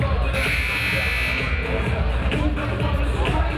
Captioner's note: buzzer buzzing